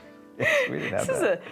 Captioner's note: laughing